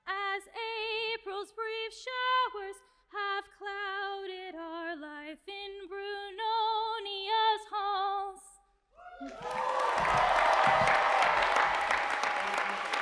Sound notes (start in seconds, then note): 9.0 cheers and applause